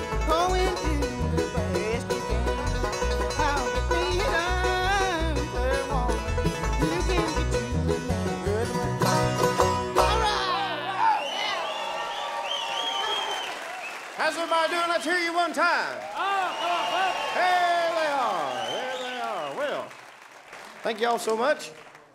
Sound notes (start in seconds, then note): 11.3 crowd cheers; 16.8 crowd cheers